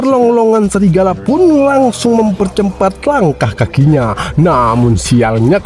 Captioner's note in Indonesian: tertawa